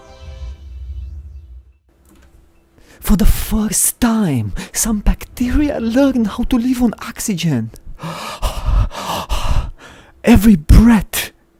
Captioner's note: breathing